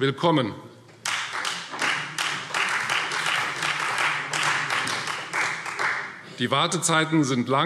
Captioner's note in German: Beifall Freie Demokraten